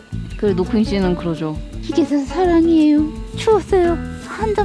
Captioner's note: impersonating